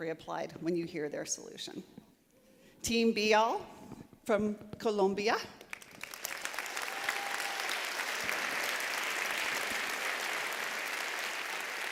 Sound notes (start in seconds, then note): 5.6 applause